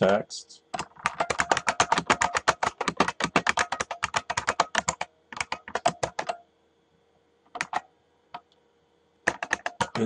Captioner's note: typing